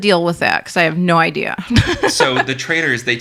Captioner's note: laughs